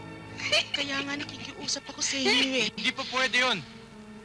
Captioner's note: giggling